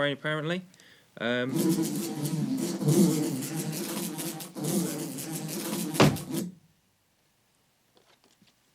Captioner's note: buzzing